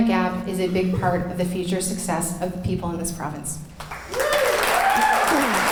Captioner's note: clapping